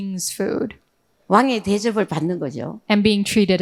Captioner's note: speaking in foreign language